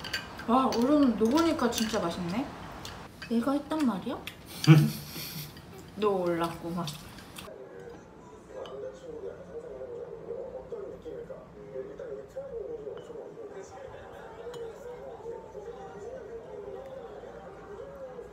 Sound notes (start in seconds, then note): 4.5 I burst into laughter...lol